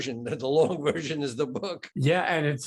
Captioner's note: chuckling